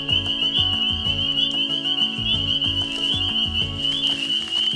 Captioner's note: frogs peeping loudly